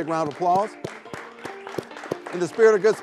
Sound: everyone claps

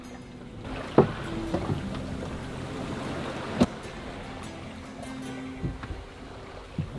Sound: gentle guitar music; water splashing

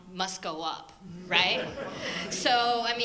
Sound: audience laughter

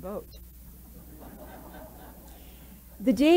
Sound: laughter

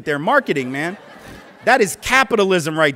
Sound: laughter

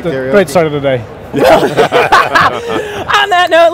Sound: laughs

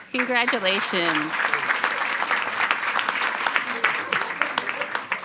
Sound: attendees applauding

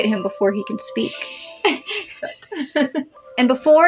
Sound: laugh

